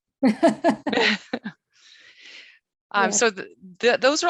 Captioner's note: laughs